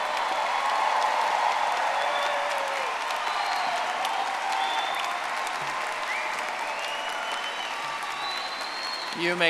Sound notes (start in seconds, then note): 0.0 audience applauding